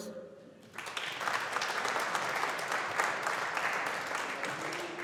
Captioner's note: audience applauding